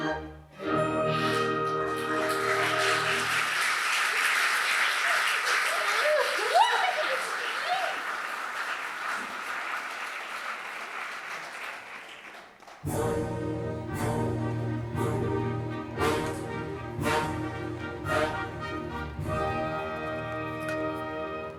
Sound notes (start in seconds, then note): 1.1 applause; 12.8 fanfare